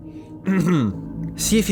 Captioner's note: clears throat